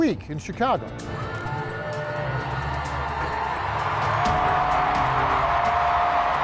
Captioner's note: bright music; attendees cheering